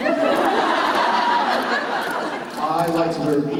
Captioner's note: laughter